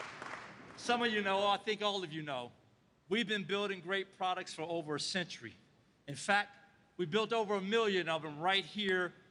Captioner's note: applause